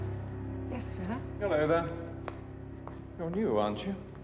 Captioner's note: none